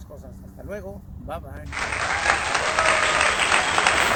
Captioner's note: applause